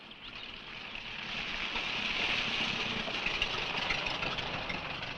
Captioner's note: engine rumbling